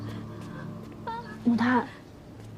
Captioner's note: fan